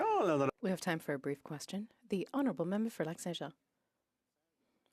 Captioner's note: speaking French